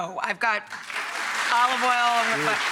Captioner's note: audience claps